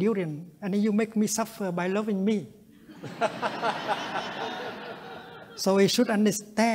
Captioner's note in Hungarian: nevetés